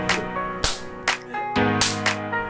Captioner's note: clap